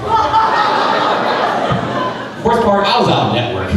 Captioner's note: crowd laughing